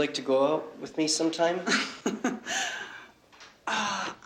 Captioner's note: laughs